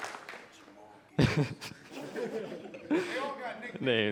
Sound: audience applauding; laughs

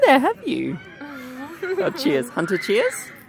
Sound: chuckles

